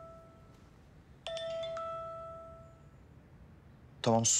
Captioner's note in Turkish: Telefon Çalıyor